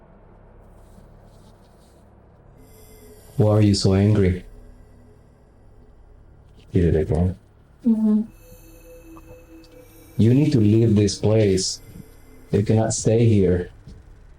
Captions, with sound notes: [Wind noise] Why are you so angry? did it again. Mm-hmm. [clicking noises] You need to leave this place you cannot stay here.